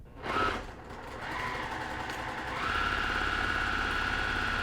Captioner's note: sewing machine whirring